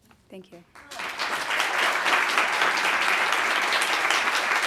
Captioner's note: audience applauding